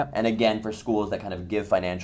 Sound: voiceover

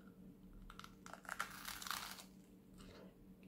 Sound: crunch

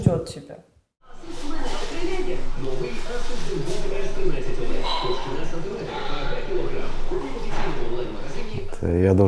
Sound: TV in background

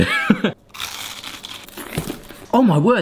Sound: laughing; crunching sounds

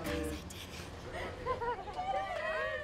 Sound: students chuckling

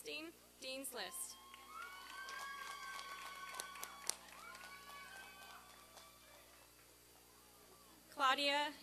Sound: applause and cheering

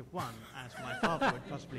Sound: laughter

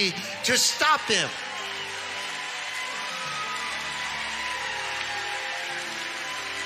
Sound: congregation cheering and clapping

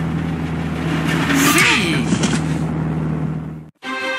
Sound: lara groans

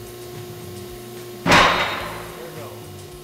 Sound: loud banging

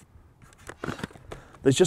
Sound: helmet clicking open

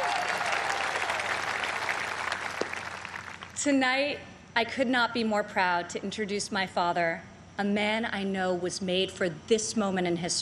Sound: cheers and applause

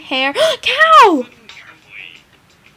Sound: small gasp

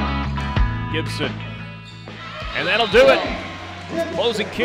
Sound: voiceover

